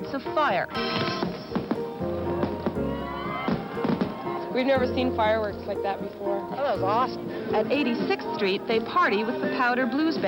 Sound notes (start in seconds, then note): 3.3 crowd cheering; 3.8 cracking, popping